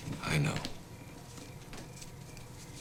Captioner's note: none